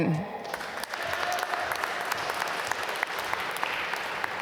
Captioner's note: applause